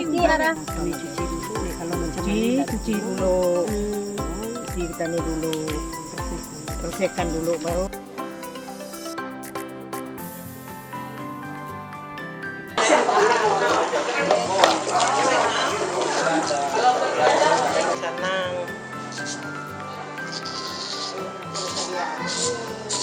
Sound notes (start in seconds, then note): 11.5 shaving